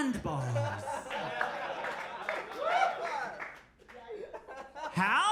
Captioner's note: audience cheers